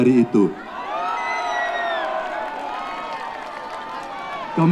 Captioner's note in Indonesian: tepuk tangan